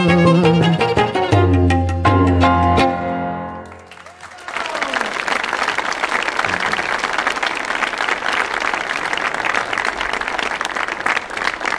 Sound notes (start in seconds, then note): 0.0 lively instrumental music; 3.5 audience applauding